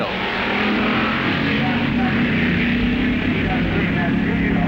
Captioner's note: hot rods revving